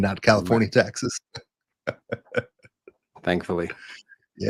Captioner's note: laugh